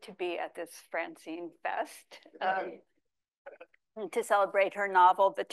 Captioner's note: laughs